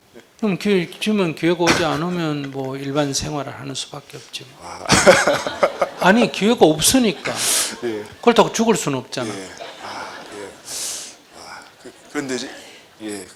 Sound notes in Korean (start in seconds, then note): 4.4 질문자와 청중 웃음